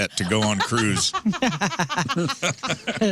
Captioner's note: laughing